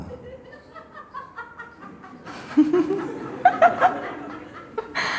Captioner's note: loud laughter from a woman in the audience